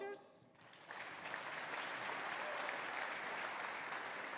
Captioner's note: audience applauding